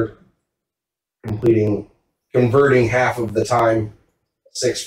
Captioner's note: none